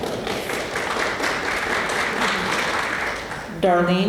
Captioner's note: applause